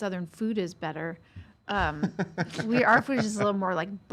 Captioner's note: laughs